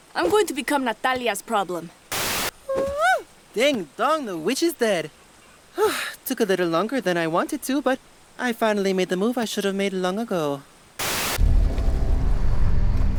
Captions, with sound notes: I'm going to become Natalia's problem. Whoo! Ding, dong, the witch is dead! [sighs] Took a little longer than I wanted to, but… I finally made the move I should've made long ago…